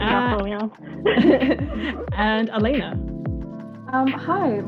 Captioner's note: laughs